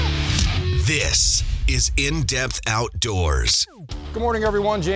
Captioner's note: voiceover